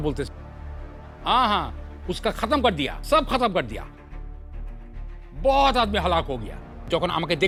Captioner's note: Multani language